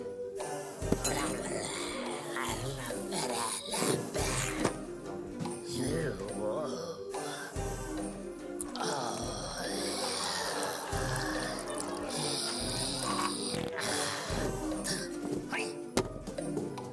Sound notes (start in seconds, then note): 11.1 Grunch peeing